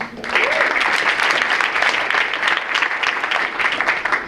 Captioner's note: audience applauds